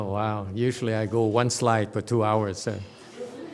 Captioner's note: audience laughs